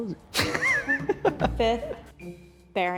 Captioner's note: laughs